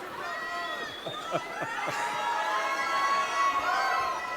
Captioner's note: guests laughing